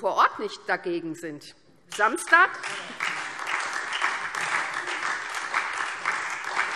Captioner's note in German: Beifall SPD und Freie Demokraten